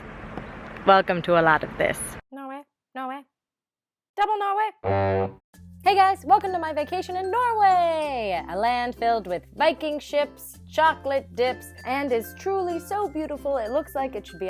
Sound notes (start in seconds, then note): 2.2 squeaky voiceover; 4.9 ship's horn sounds